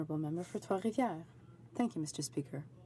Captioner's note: speaking French